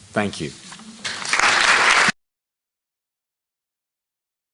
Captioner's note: applause